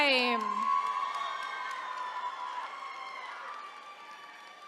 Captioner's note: attendees cheering